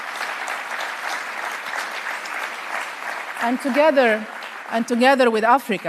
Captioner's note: applause